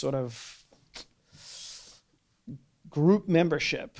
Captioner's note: sucks air in through teeth